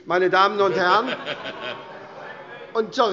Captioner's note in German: Heiterkeit - Zuruf CDU: Feigling!